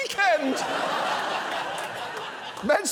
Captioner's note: audience laughs